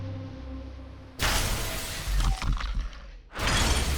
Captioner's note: glass shatters